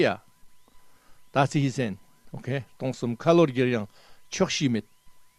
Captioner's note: tibetan